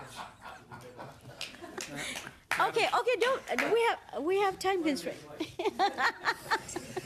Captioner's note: laughter